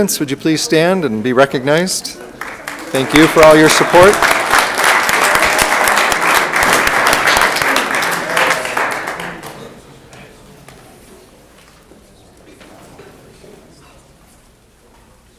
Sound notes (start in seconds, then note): 4.5 room applauds